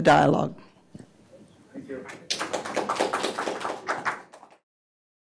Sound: audience applauds

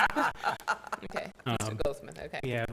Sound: laughs

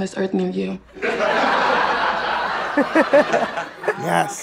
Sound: laughs

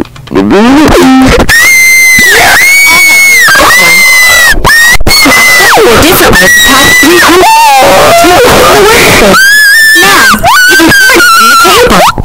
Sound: Everyone screams while the RMS Titanic sinks

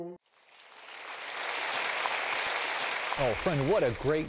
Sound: applause

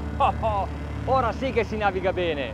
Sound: chuckles; speaking in foreign language

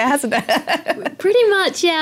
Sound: laugh

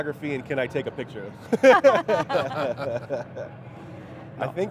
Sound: everyone laughs loudly

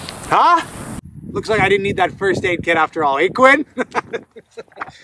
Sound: laughs

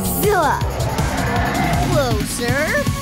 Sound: roars

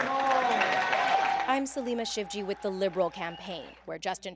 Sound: applause

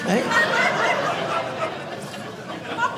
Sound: audience laughing

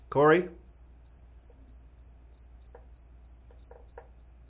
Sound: crickets chirping

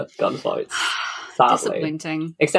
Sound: sighs

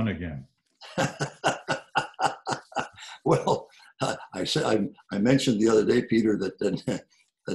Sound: laughs

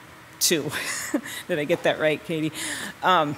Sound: softly chuckles

